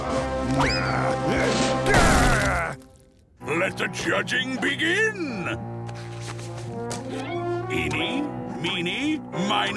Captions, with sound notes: [grunting] Let the judging begin! Eeny, meeny, miney-